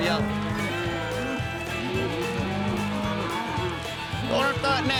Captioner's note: mooing